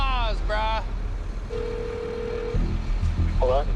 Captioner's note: cellphone ringing